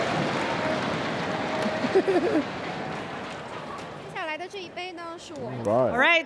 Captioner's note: cheers and applause